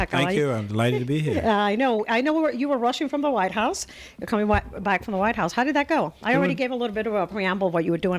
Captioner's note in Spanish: Hablando ingl\s